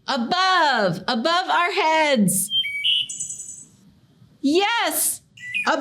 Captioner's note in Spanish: canto de pájaros